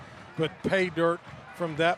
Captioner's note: applause